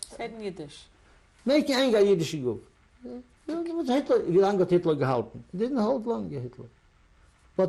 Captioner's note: yiddish